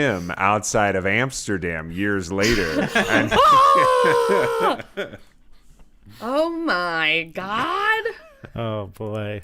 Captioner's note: shouting